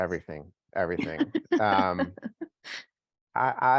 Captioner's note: laughs